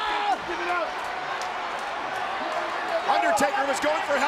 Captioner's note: crowd clamoring